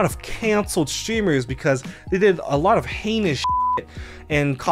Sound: beep

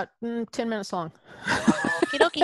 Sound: laughs

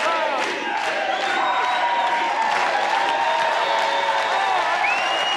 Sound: audience cheers and applauds

